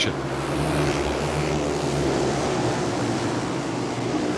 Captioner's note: engines roar